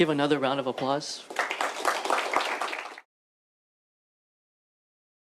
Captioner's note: applause